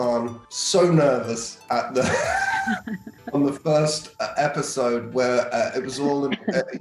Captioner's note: laughs